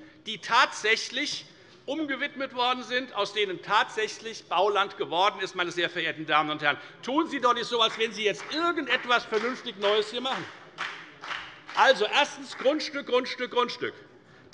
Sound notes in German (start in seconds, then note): 10.6 Beifall bei der FDP